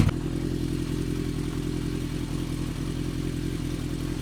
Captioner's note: engine running